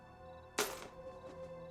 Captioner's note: keys clatter